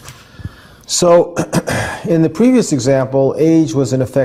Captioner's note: cough